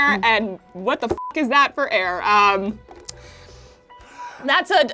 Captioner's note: beep